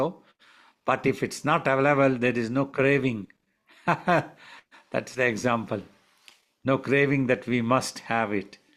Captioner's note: laughs